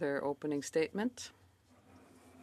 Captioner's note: speaking in French